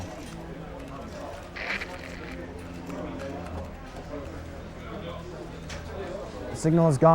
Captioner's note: pensive music; transmission hissing